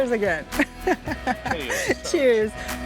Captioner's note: in Portuguese